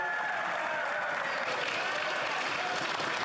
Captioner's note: yelling